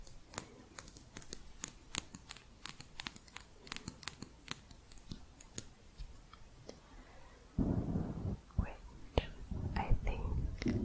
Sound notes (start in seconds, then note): 0.3 light tapping; 7.6 mic scratching